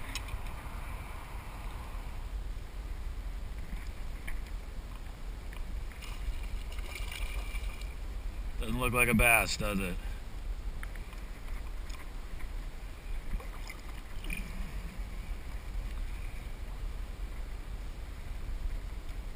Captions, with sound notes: [Splash, splash] Doesn't look like a bass, does it?